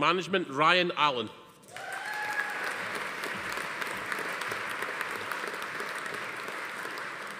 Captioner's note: attendee cheering; audience applauding